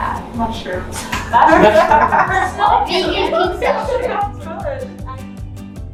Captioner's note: laughter